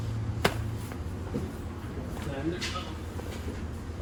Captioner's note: flapping dough